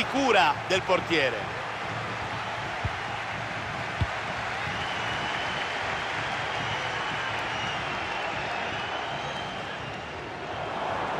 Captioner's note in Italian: Applauso